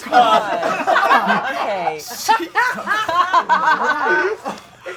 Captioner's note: audience laughing